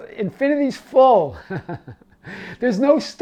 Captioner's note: laughing